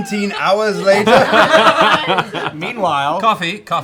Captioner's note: laughter